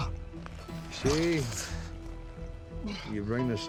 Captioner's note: scottish accent